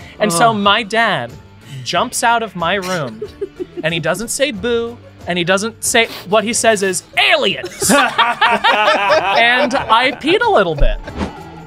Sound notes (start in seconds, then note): 7.4 all laughing; 11.4 spooky music